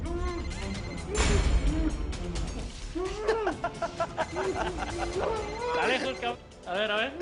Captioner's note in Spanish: Los otros ríen